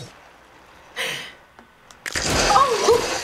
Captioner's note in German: Leichte kichern; Blut spritzt